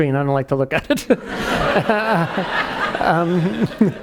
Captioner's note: laughing